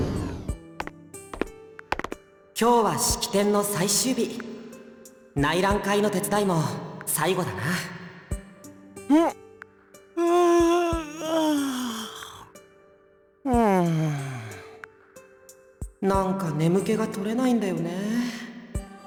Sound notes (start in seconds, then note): 10.2 weary sigh; 10.2 yawn; 13.4 weary sigh